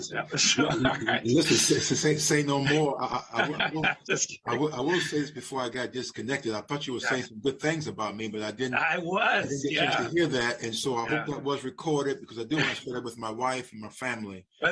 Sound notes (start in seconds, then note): 4.3 laughter